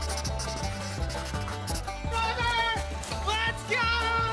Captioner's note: shouting